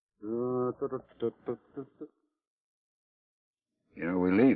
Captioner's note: Joshua hums melodically